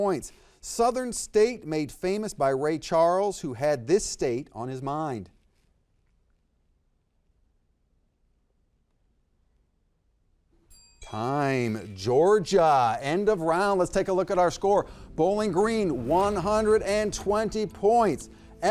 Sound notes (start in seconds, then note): 10.6 bell ringing